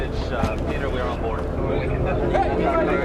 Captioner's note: officer On Radio; indistinct chatter